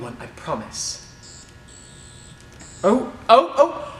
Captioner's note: sonic buzz